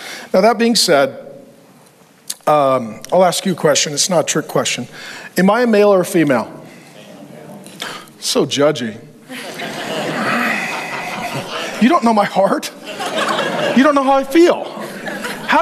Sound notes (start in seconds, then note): 9.2 congregation laughs